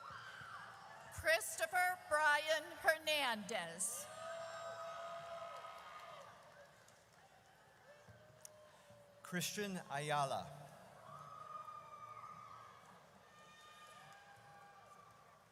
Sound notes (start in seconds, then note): 4.1 audience cheers; 10.5 audience cheers